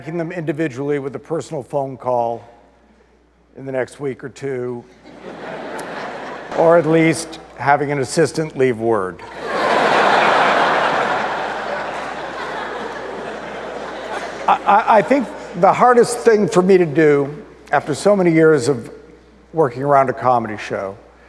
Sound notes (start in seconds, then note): 6.1 audience laughter